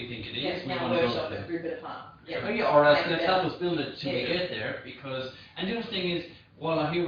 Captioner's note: audio distorts